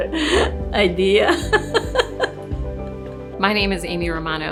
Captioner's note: laughing